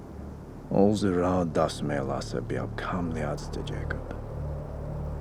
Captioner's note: speaking foreign language